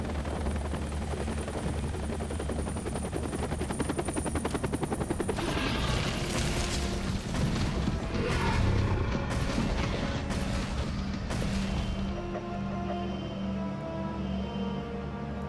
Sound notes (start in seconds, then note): 0.1 helicopter blades whirring; 5.2 dramatic music; 7.4 dinosaur growling; 11.4 alarm blaring